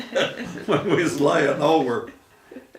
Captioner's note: laughing